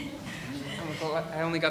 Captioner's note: laughing